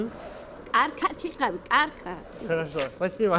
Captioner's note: something in Georgian